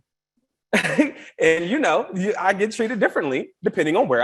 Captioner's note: chuckles